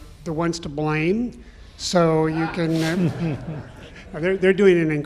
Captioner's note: audience laughs